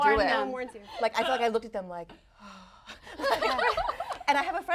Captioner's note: sighing